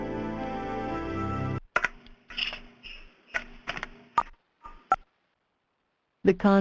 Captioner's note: music stops